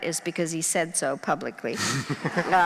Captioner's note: crowd laughing